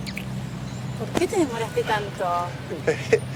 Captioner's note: kissing; hitting; laughing